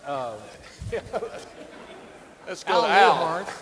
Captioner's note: audience laughing